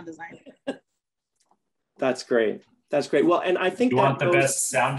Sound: laughter

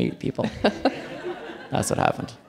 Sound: audience laughing

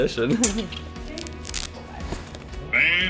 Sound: laughs

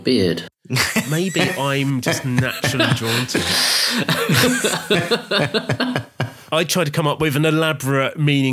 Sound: laughing

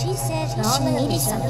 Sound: voices

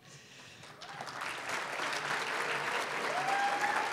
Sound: applause; applause, cheering

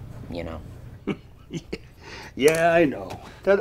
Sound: Junior chuckles

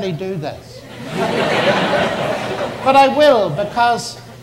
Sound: audience laughs

